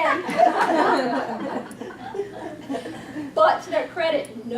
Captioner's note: audience laughs